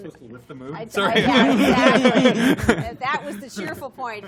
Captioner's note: laughter